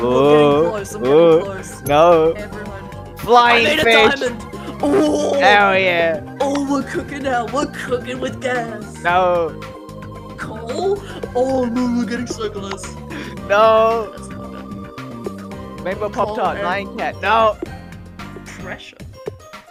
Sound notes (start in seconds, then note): 11.1 gasp; 12.9 inhale